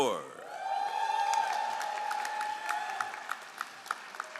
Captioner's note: all applauding